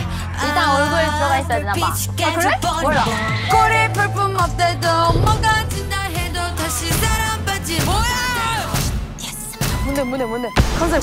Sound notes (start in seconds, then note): 2.8 confident